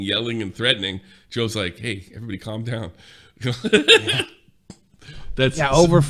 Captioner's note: laughing